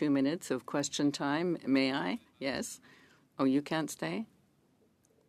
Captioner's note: speaking French